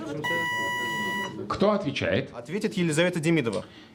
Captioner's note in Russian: none